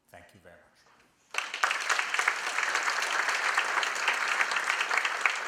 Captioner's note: applause